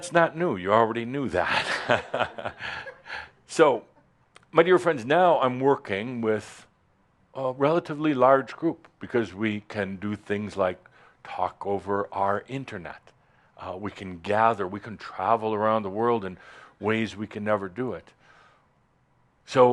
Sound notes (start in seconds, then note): 1.4 chuckles